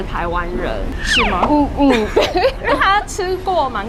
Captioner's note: scared